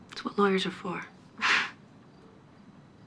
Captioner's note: chuckles